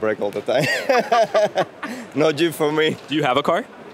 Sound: laughing

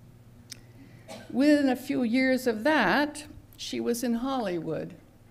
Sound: cough in background

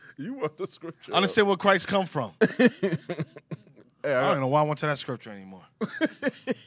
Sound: laughing

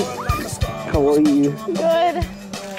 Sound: Lauren screams

